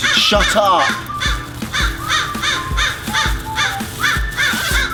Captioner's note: crow cawing